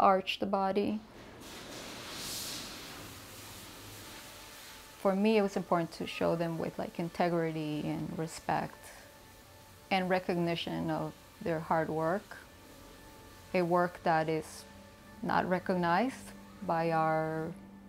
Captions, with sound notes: the arched body. (spraying) For me it was important to show them with like integrity and respect, in recognition of their hard work, a work that is not recognized by our system.